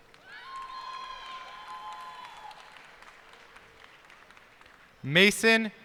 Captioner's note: cheers and applause